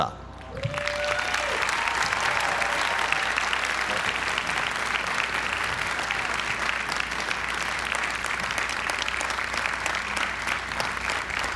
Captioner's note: applause